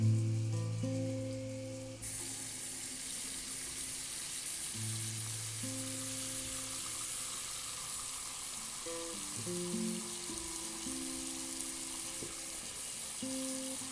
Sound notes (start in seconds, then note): 2.4 water splashing